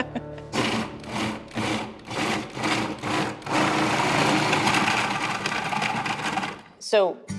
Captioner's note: blender motor whirring